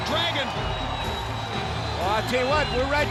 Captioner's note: crowd cheering